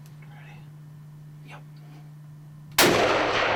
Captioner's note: whispering; gun firing